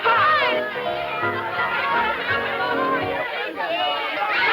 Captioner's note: children yelling